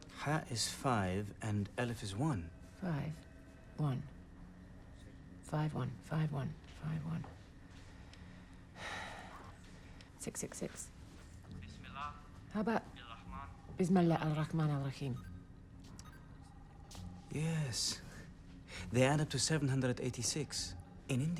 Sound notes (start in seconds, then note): 9.0 sighs; 12.9 speaking foreign language